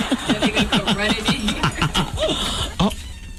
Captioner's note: laughing